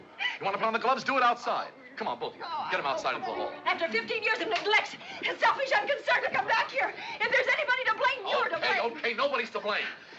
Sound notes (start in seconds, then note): none